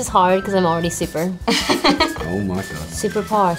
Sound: laughs

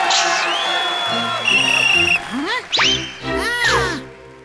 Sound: applause; whistle blows

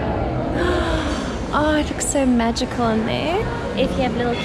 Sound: sighs

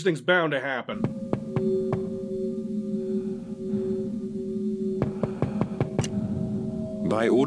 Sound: knocking

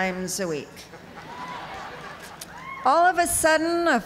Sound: laughter

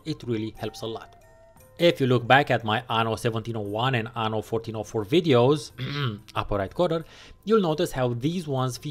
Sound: ahem

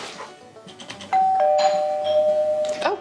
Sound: door Bell Ringing

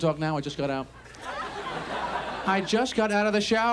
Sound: audience laughs

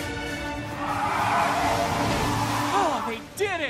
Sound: monster shrieking

